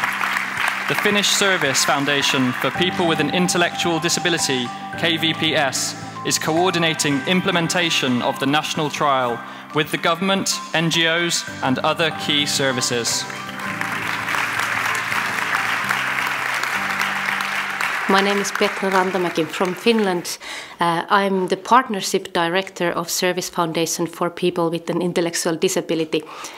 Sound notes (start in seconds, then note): 12.2 applause